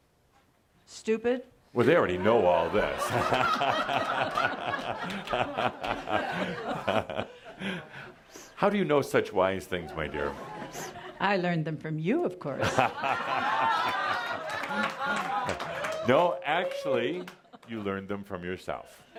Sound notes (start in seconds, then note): 4.5 laughter and Adamus is chuckling; 12.6 more laughter